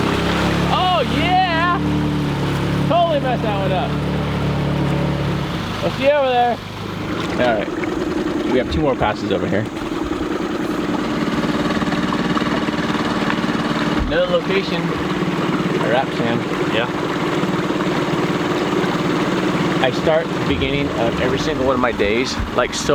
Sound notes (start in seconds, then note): 0.0 engine revving; 0.2 water splashing; 9.9 engine revving; 17.6 engine revving